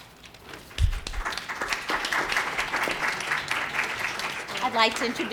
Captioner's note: students clapping